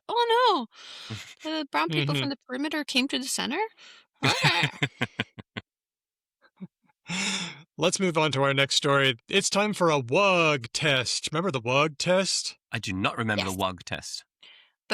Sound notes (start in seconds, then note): 4.2 laughs